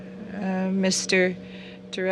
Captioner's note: speaking French